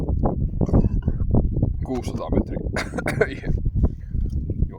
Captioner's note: coughing